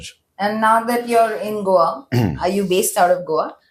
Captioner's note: clears throat